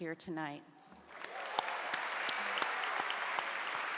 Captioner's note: clapping